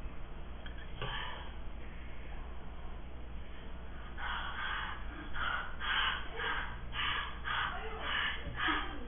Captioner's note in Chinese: 哈氣～